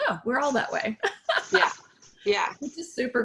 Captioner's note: laughing